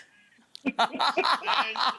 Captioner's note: both laughing